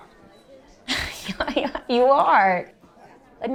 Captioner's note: laughs